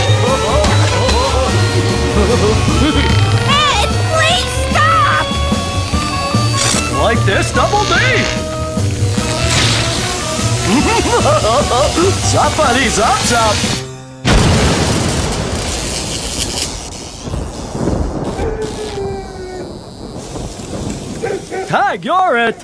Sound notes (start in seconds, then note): 0.0 STILL laughing; 10.5 laughing; 14.2 kaboom!